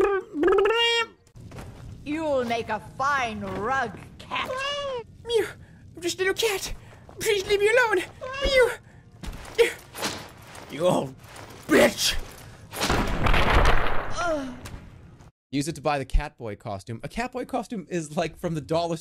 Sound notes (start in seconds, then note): 12.7 the haunting sound of an old woman’s bones exploding; 14.1 she moans sounding more like pleasure than pain for some reason